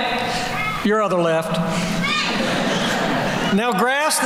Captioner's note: laughter